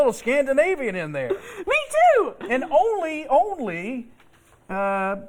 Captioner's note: laughter